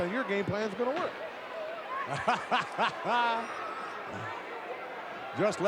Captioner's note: people laughing